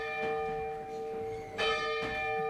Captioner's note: nat sounds of church bell